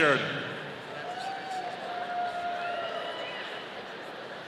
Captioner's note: audience cheering